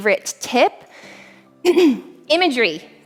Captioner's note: clears throat